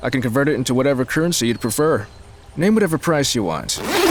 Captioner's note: zips up duffle bag